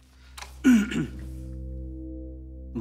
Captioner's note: Clears throat